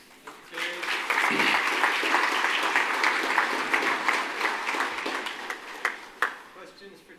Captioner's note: applause